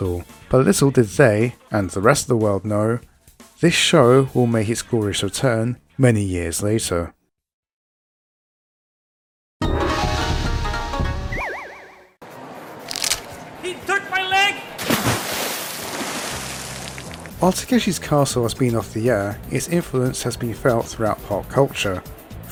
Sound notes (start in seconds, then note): 12.5 snap; 14.8 splash